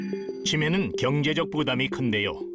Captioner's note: voiceover